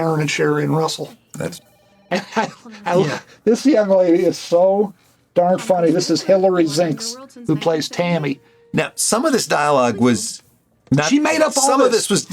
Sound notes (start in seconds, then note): 2.2 Gilligan laughs